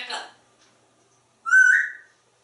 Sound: whistle

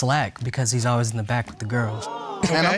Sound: audience exclaims

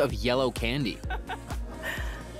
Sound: laughter

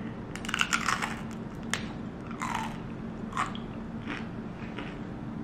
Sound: fruit roll-up crunching

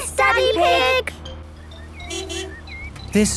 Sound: honking

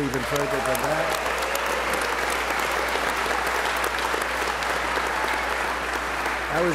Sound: applause

